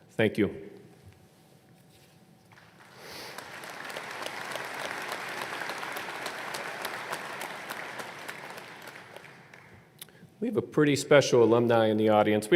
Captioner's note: applause